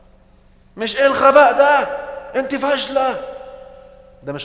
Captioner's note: angry tone!